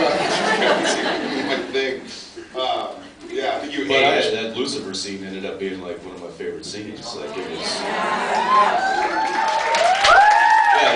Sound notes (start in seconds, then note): 0.0 laughs; 7.6 cheers, sounds of agreement; 7.9 cheers, applause